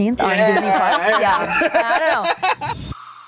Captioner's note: laughter